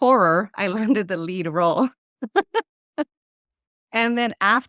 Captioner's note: laughs